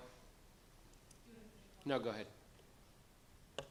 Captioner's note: woman speaks faintly